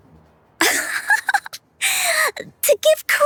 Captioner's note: laughter